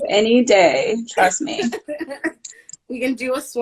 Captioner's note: laughing